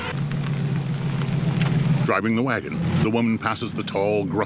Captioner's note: engine rumbling; engine revs